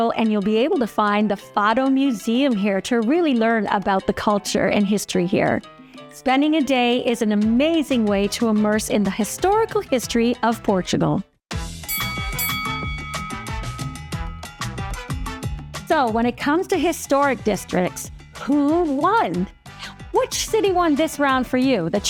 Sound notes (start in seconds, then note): 11.6 lively music; 11.8 bell dings